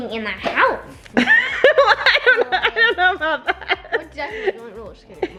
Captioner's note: laughing